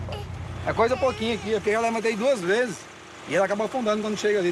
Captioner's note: Portuguese spoken audio